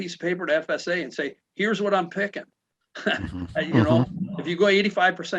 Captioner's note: chuckles